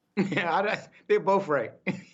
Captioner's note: laughter